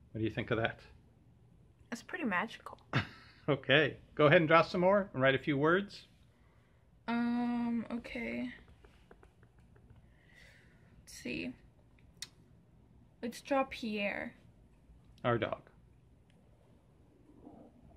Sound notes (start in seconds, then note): 2.9 laughs